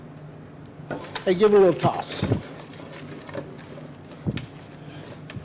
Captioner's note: food rustling